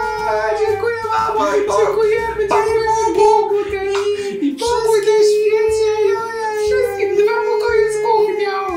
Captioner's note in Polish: chichot